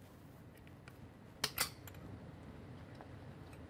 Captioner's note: click